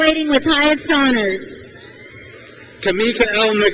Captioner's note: crowd cheers